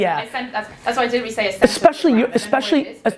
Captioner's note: voiceover